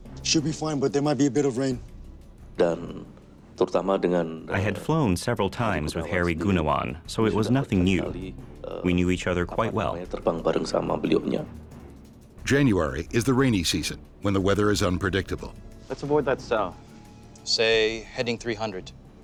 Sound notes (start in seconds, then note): 2.9 speaking foreign language; 12.5 voiceover